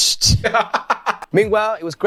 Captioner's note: laughs